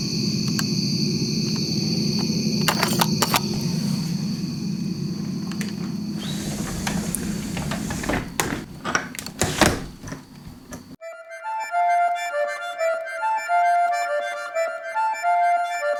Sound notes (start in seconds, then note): 2.7 camera clattering; 9.3 lock clicks; 11.0 mysterious music